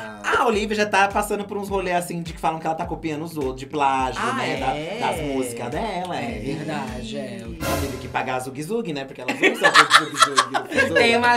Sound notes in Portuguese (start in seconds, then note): 9.4 Blogueirinha ri